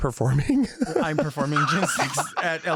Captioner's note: laughs